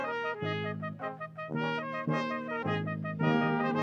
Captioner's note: none